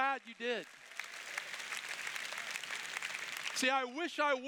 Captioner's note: applause